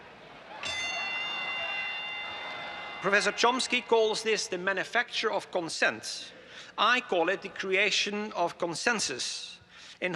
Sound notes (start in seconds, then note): 0.6 bell dings; 1.0 audience cheering